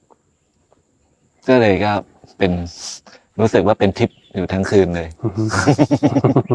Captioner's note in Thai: เสียงสูดหายใจ; เสียงหัวเราะ